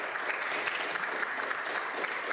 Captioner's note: applause